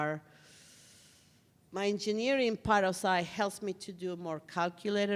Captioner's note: inhales through teeth